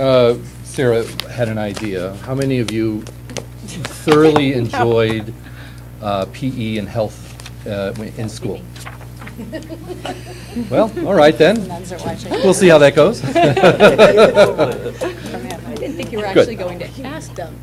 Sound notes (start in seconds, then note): 9.3 laughter; 13.2 laughter